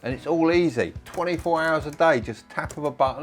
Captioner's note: keyboard typing